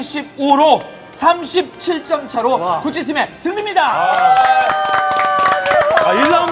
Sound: applaud

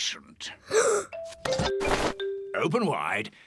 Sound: gasps

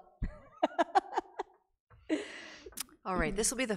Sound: chuckles

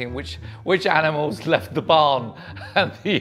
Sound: chuckles

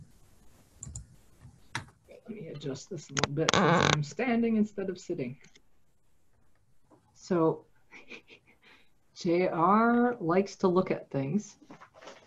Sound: creak

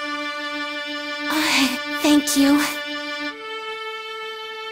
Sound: sigh

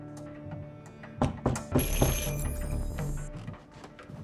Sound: knocking on door, doorbell rings

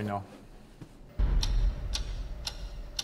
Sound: clock ticking

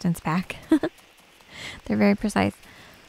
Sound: giggles

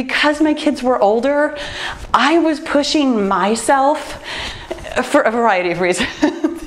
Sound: laughs

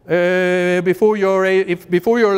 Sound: none

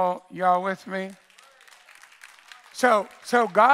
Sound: congregation cheers and applauds

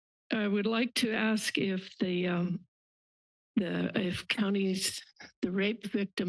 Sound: stutters

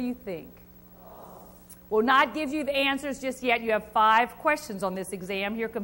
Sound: crowd

